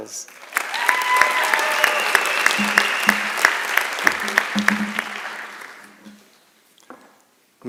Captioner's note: applause and Cheering